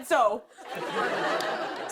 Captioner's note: laughter